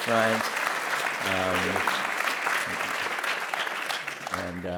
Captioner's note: applause